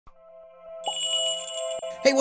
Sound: magical jingle

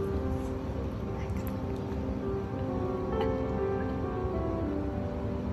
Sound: laughing

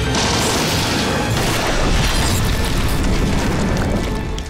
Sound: exploding

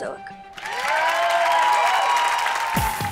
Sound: cheering

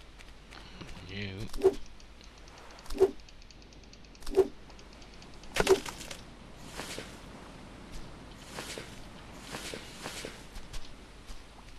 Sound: huffs

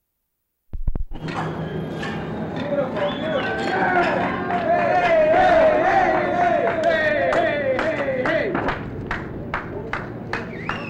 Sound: silence; crowd noise and clapping

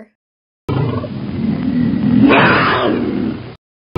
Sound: tiger roaring

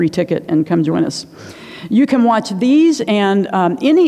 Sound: inhales

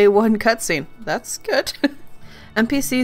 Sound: laughs

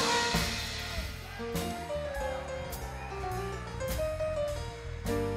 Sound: listeners cheering

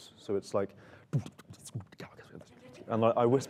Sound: beat boxing

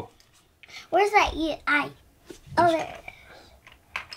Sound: voiceover

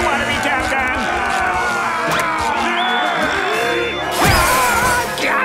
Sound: screaming

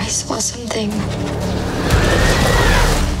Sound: screaming

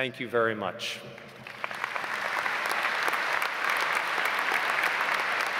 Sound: audience applauds

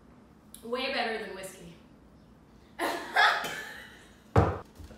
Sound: laughter

